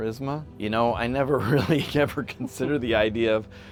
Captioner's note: laughs